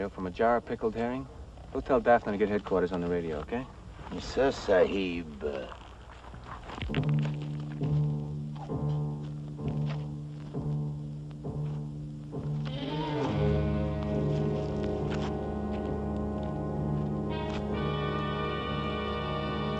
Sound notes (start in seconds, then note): 7.3 ominous music; 15.4 footsteps